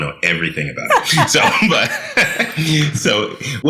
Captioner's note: laughing